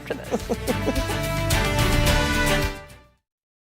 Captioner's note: laughter